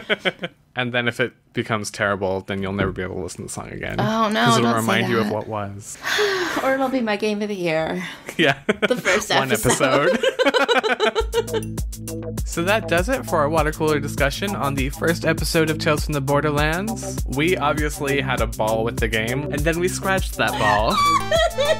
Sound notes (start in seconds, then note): 11.6 laughs